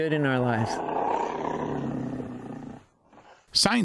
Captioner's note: feline roaring